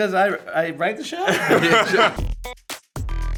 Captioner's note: cast laughing; upbeat music